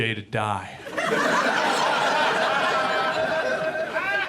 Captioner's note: audience laughs